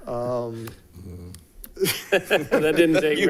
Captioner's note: people laughing